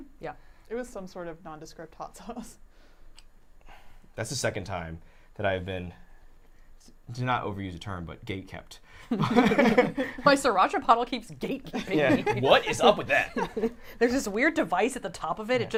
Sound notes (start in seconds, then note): 9.1 all laughing